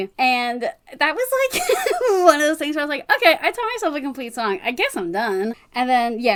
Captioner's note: laughs